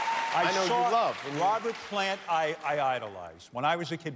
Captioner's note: cheers and applause